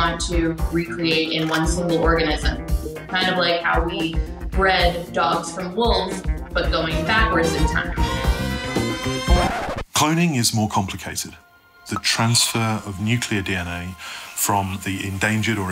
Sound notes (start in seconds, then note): 8.2 lively music; 8.2 record scratching